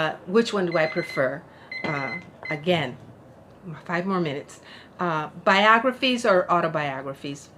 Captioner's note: timer